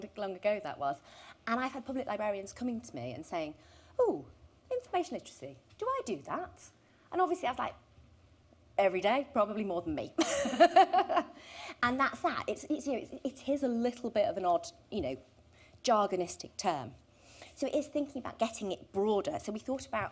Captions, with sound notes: that was, and I had public librarians coming to me and saying "Oh information literacy? Do I do that?" And obviously I was like "every day, probably more than me". [laughter] And it is a little bit of an odd, you know, jargon istic term. So it's thinking about getting it broader, so we thought about,